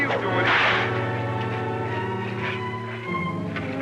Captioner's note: cracking whip